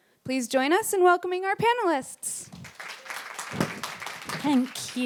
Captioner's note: applause